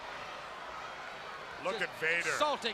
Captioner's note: crowd chatters